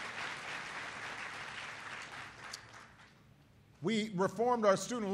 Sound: applause

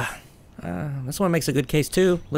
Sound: man grunting

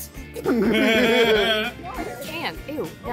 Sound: laughs

